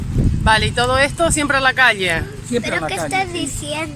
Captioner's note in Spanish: voz de niño